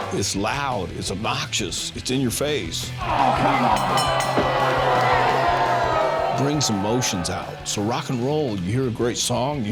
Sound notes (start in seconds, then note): 3.0 crowd cheering; 3.7 bell dinging